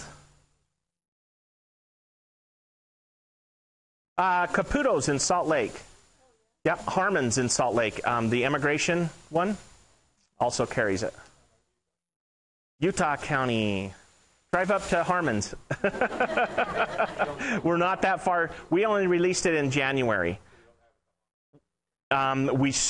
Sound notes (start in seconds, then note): 15.7 audience Laughing; 15.8 laughing